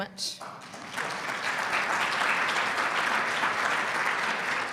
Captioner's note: audience clapping